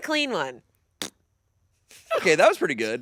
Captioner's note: imitates farting